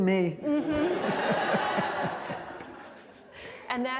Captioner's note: laughter